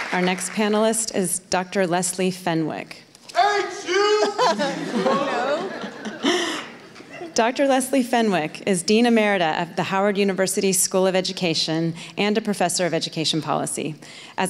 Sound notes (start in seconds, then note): 4.0 shouting